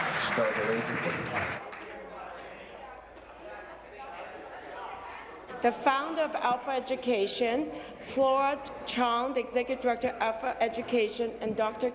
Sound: applause

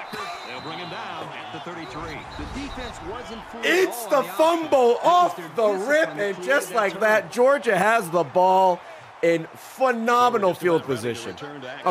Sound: laughs

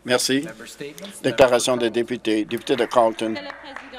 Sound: applause

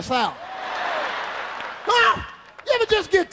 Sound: audience laughing

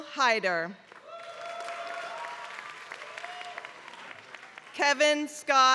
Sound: applause

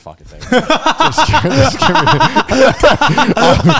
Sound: laughs

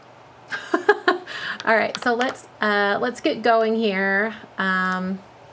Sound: laughs

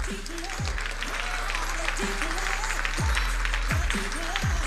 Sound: crowd applauding

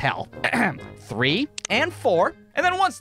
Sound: click!

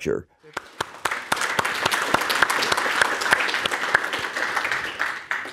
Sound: audience applauding

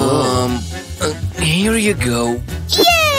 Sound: grunting a bit

